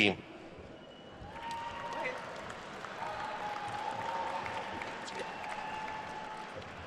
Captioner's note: attendees cheering and applauding